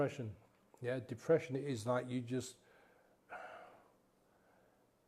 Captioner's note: sighs